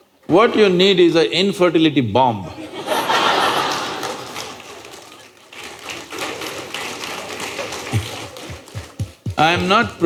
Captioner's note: laughter/Applause